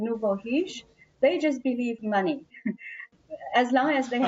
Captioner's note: laughter